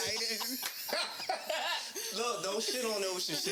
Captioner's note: laughing